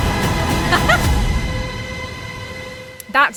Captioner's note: dramatic music; giggles